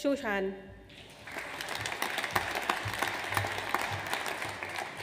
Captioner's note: audience applauds